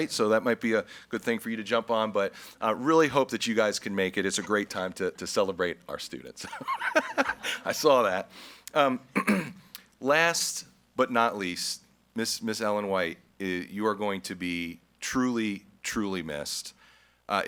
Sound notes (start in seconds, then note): 6.4 group laughs